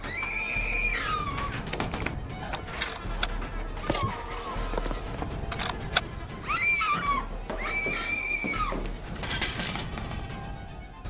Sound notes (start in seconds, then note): 6.4 Sharon screaming frantically